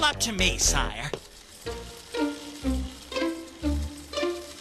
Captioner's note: film reel projecting